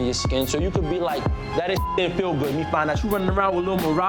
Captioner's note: beep